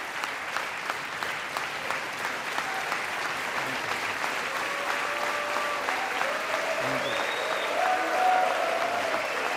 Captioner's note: applause